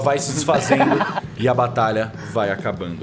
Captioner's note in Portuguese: Risadas